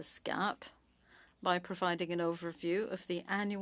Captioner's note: speaking French